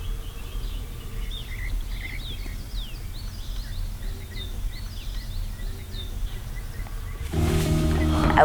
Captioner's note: birds chirping